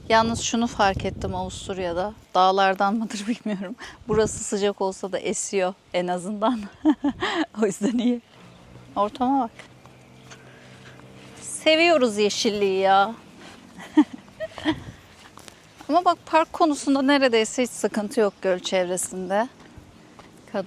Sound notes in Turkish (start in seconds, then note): 6.6 kahkaha